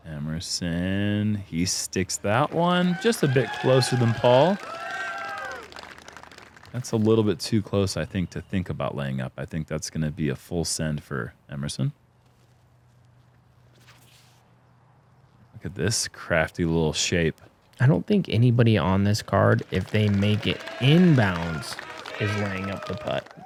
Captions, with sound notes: -Emerson. He sticks that one just a bit closer than Paul. [cheering] -That's a little bit too close, I think, to think about laying up. I think that's going to be a full send for Emerson. Look at this crafty little shape. -I don't think anybody on this card, if they make it inbounds, is laying up the putt